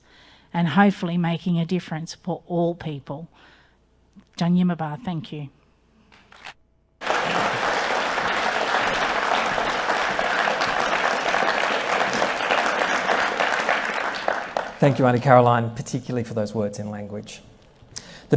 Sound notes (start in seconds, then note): 7.0 audience applauding